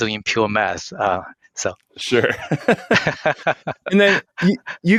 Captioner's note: both laughs